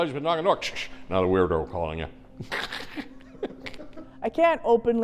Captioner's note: chuckles